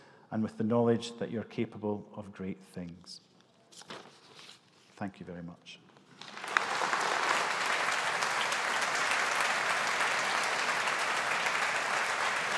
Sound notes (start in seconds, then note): 6.1 audience applauding